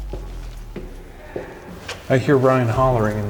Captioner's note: hollering